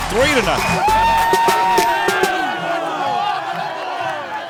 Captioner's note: team cheering